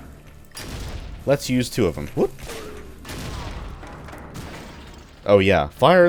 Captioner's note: kaboom